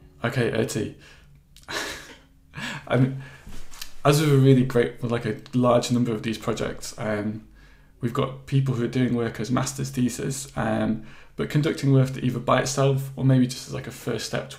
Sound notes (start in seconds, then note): 1.6 laughs